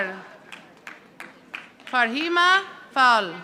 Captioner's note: audience applauding